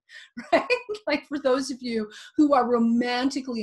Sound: chuckling

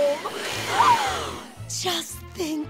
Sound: gasping

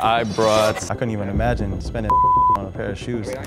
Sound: beep

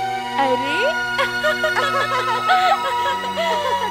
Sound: laughs

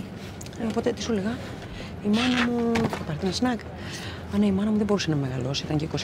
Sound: flight attendant and Vanina speaking foreign language

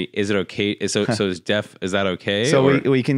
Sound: laughs

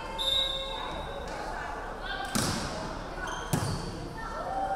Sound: referee whistling

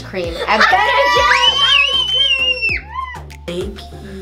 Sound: yelling

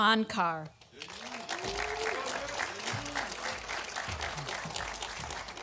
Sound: audience applauding

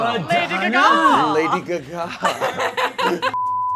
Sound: waiter laughing; laughing; laughs

